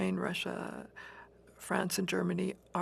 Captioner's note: speaking French